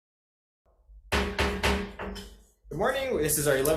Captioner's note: gavel thudding